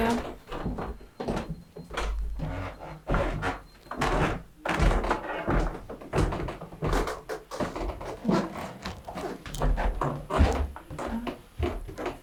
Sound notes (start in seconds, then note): 1.1 footsteps in the background